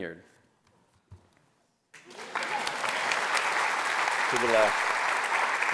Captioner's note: applause